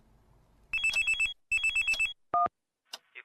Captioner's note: phone ringing